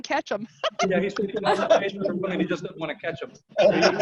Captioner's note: indistinct chatters; laughing